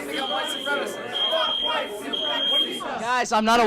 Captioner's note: chanting